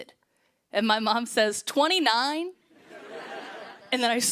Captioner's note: laughter